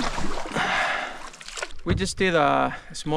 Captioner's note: water splashing